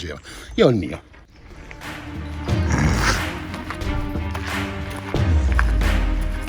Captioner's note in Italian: Applauso